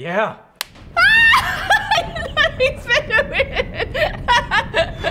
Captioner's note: screams in delight, laughs